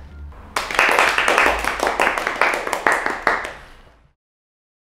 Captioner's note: applause